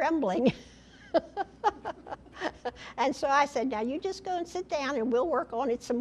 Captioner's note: laughter